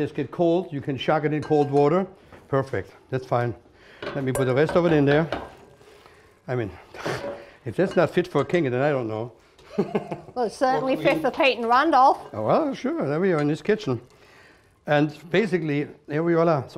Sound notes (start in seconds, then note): 9.7 laughs